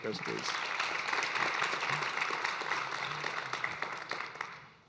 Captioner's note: audience applauding